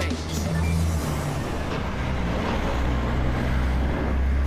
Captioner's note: truck rumbling